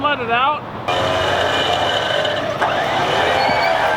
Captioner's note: engine revs